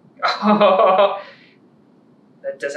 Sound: laughter

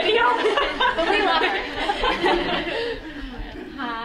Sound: laughing

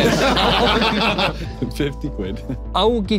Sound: everyone laughing

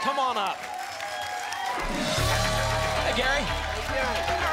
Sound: applause and cheering cont

